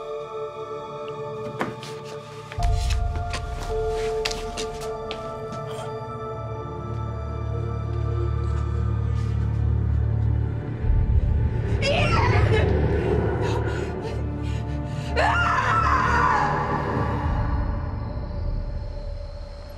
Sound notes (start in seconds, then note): 15.1 screaming